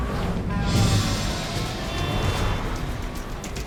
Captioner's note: car whooshes; cars rev; car horns honk